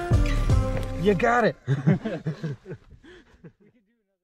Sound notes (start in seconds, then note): 1.6 laughing